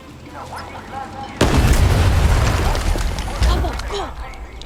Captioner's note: mine exploding